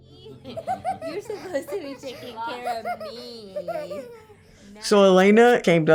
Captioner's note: laughing